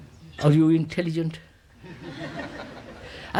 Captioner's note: laughter